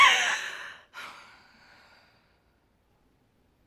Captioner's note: sighs; cries